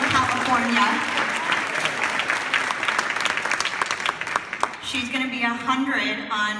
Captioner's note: clapping and cheering